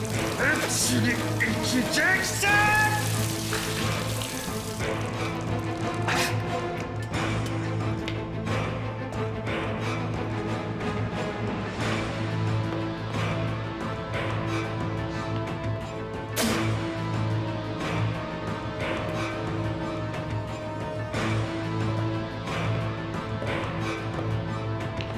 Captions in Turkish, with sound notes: Hepsini içeceksin! (Müzik - Gerilim) (Tükürme sesi) (Müzik - Gerilim)